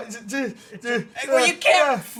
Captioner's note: stammering